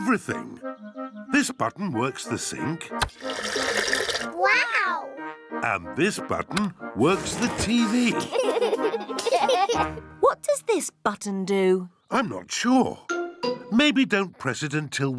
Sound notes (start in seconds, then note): 8.0 laughter